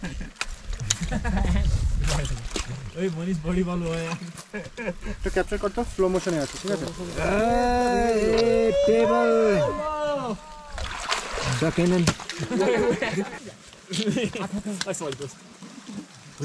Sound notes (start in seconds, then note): 0.8 laughter; 7.1 hooting and cheering; 12.3 laughter